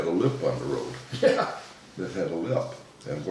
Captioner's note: laughing